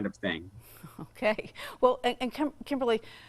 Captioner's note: chuckles